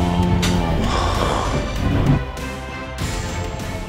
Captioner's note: sighs